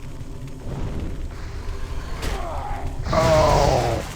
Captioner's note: gunfire